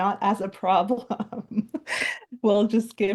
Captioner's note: laughing